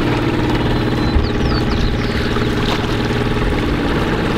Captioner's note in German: Vögel zwitschern